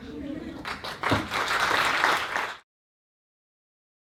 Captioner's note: applause